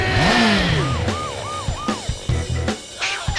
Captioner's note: siren wails